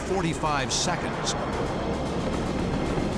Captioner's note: jet engine noises